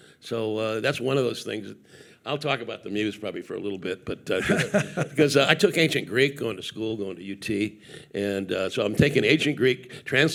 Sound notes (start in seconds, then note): 4.4 laughing